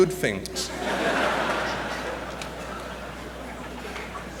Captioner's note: laughter